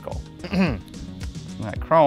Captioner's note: clears throat